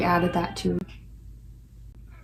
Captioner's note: sounds of a cat whining